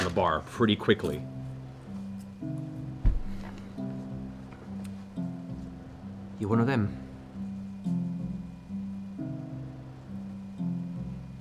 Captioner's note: quietly